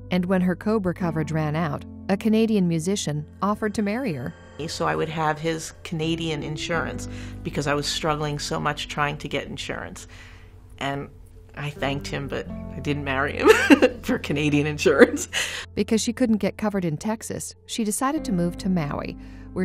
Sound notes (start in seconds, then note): 13.5 laughing